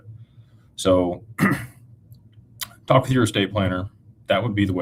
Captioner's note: clears throat